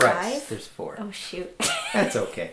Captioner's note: laughing